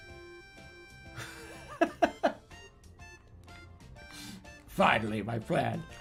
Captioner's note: laughing